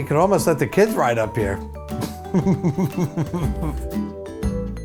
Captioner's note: laughs; music resolves